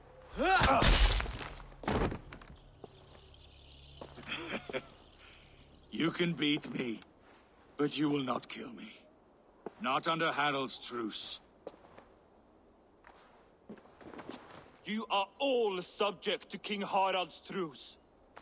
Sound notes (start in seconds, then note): 4.2 laughs